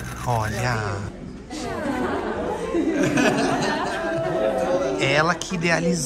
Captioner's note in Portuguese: risos